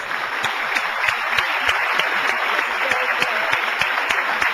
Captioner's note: audience applauding